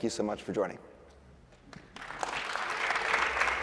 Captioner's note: applause